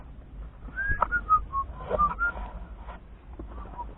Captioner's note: whistling